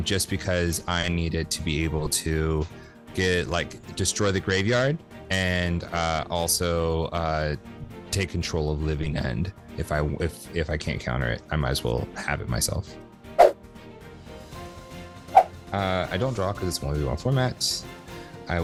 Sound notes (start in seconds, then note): 13.6 air whooshes